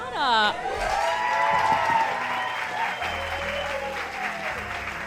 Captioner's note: audience cheering